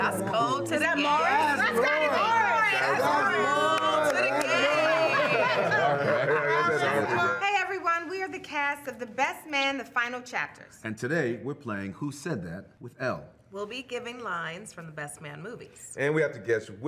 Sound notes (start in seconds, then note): 5.7 group teasing and laughing